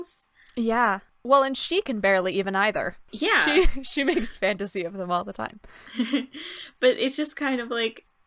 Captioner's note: laughter